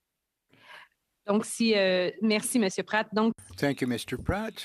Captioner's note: speaking Indigenous Language